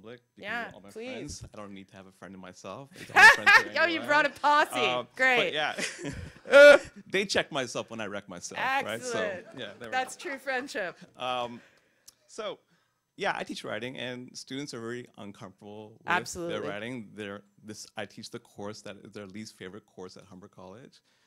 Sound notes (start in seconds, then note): 3.0 laughs